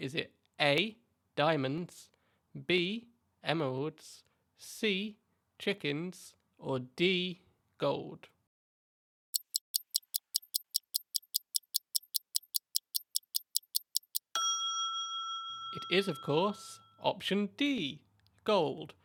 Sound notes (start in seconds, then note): 9.3 ticking Sound; 14.0 ding